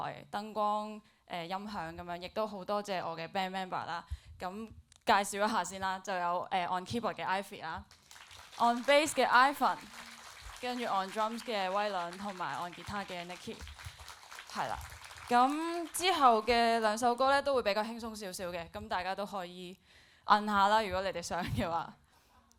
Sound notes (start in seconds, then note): 8.4 applauds; 14.0 applauds